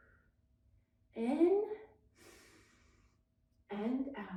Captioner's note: exhales deeply; inhales deeply